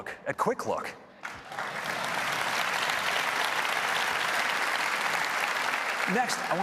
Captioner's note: applause